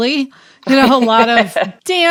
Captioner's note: chuckling